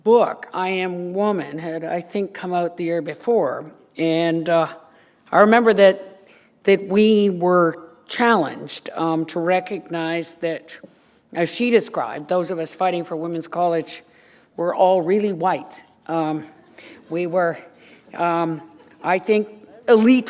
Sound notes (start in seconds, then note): 16.1 laughter